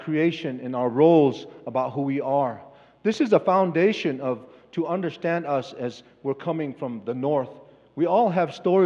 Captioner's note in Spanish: Expositor habla en inglés